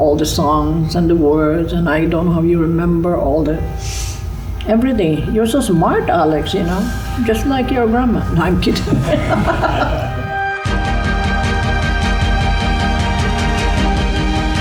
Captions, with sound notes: All the songs, and the words, and I don't how you remember all that. Everything, you're so smart, Alex, you know. Just like your grandma. No, I'm kidding. (laughing) (inspirational music playing)